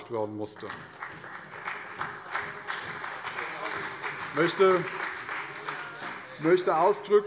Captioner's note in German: Beifall bei Abgeordneten der CDU, des BÜNDNISSES 90/DIE GRÜNEN und der FDP